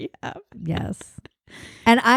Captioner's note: laughs